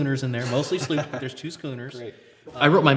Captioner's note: laughs